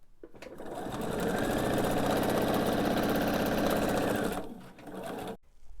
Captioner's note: machine whirring